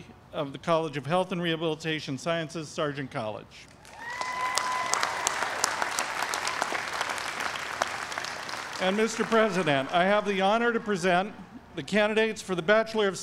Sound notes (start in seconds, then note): 3.8 applause